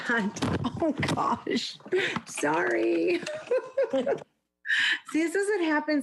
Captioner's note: laughs